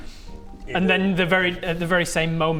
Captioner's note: none